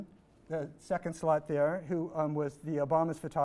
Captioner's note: none